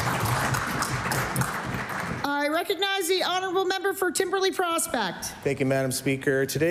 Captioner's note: applause